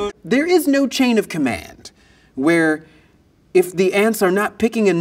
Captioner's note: none